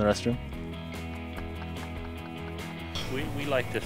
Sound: laughing

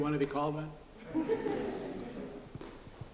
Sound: laughter

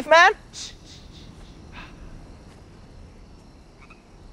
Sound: shushing

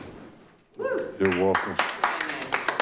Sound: light applause

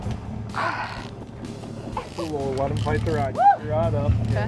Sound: engine idling

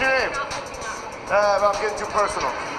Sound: speaking quickly

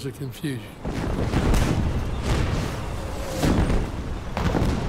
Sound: cannon shots exploding

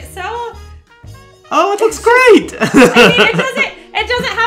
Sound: chuckles

